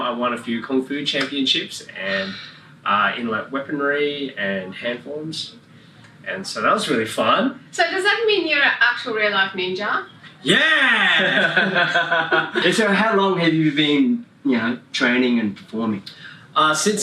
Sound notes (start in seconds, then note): 10.4 all laughing